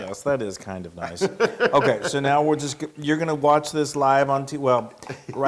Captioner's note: laugh